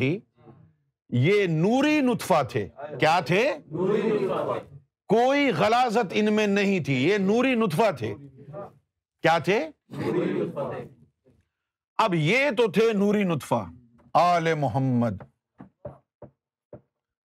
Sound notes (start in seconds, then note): 3.7 audience repeats; 9.9 audience repeats